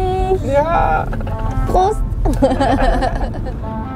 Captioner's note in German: Lachen